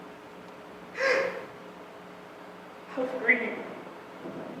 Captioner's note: sobs